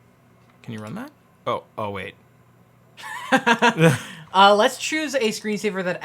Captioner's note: laughs